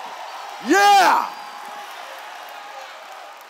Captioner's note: cheers